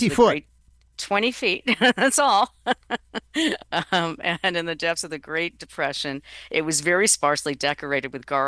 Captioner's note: laughs